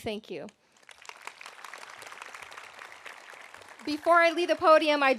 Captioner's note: audience applauding